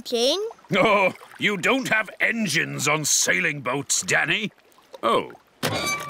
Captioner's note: chuckling